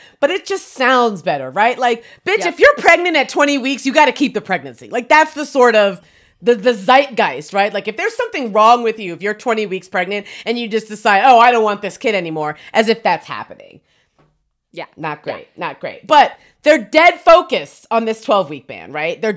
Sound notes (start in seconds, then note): none